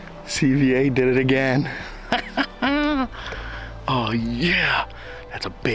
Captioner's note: laughs